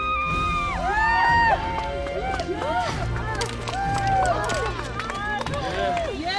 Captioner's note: cheering